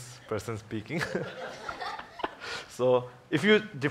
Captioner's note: all laughs